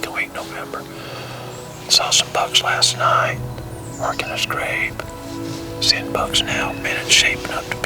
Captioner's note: whispering